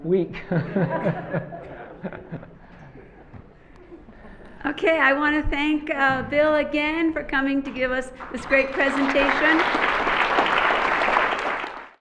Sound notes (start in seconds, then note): 0.3 laughter; 8.1 applause